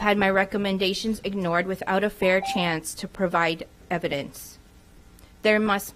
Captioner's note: none